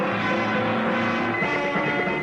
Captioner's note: dramatic music; lively music; automobile roaring; lively music; sonar beeping